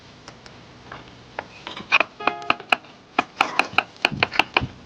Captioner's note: chops loudly